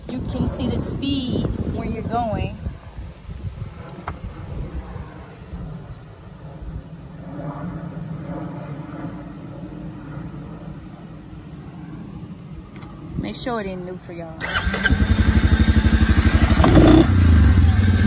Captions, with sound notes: you can see the speed when you're going. Make sure it in neutral. (engine revs)